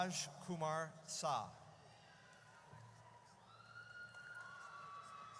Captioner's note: audience cheers